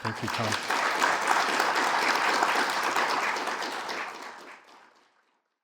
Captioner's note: audience applauding